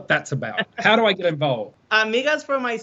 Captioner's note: laughing